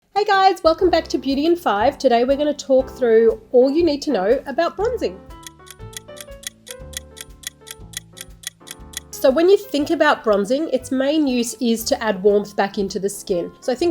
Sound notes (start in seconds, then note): 5.3 clock ticking; 6.0 gentle music